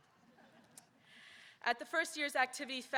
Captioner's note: audience laughing